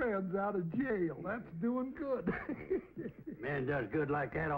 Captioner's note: laughs